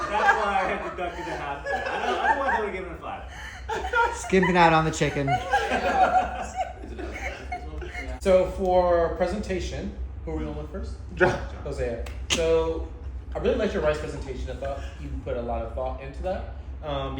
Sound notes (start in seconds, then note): 14.5 laughing at Chuck